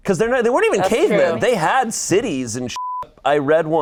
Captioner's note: beep